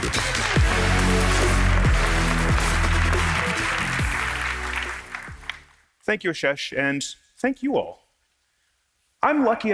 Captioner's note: applause